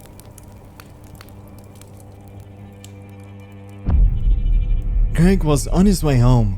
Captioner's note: deep hit